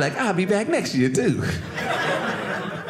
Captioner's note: audience laughing